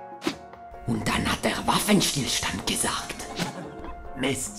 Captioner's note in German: Mit französischem Akzent